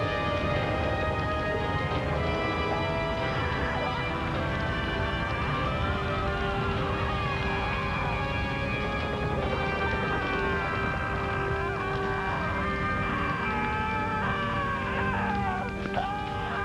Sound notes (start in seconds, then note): 3.5 Sam screaming; 11.7 screaming continues